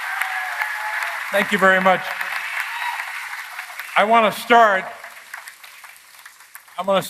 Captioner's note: applause